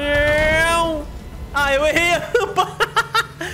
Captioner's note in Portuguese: risos